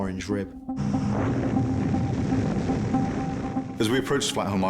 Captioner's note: suspenseful music; air whooshing